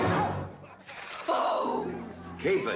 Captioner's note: growling loudly